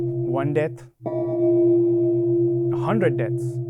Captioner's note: gong